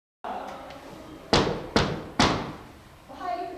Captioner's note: knocking sound